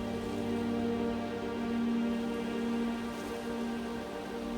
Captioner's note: wind blowing